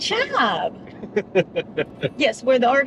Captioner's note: laughing